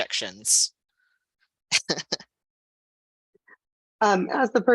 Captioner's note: laughter